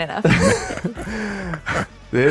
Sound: chuckles

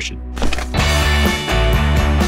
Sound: paper crumpling; upbeat music

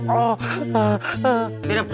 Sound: whimpers

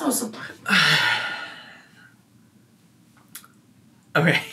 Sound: sighing

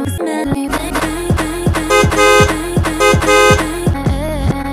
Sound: beep beep

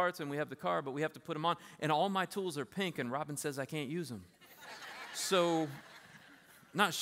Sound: laughter

